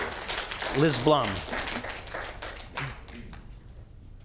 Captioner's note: applause